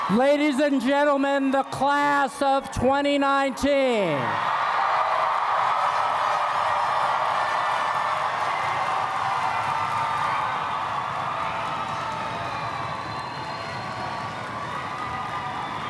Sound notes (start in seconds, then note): 5.0 applause and Cheers